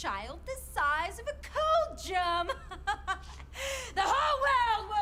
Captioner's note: laughs